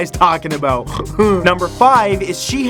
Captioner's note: snorts